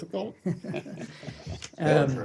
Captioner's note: laughter